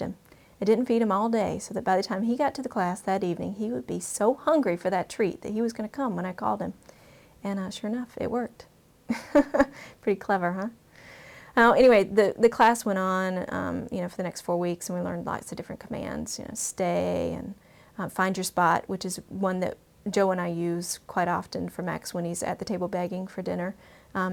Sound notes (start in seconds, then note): 9.1 laugh